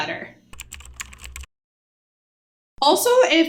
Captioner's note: keyboard clicking